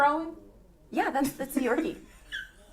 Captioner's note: faint growling